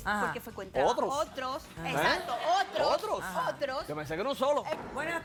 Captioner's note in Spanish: risas